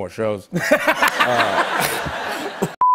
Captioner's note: laughter